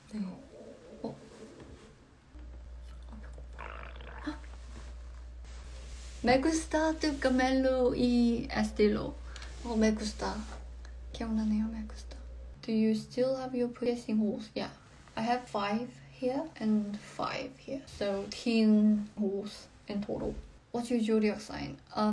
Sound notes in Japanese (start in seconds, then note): 5.6 口から出るままに吐き出すスペイン語